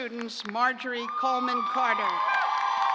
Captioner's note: cheers